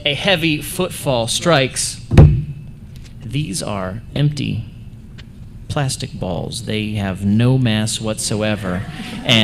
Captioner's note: thud; laughter